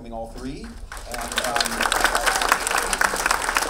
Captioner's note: clapping